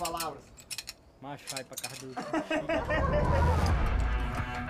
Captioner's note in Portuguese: risos